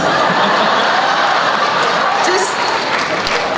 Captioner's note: laughing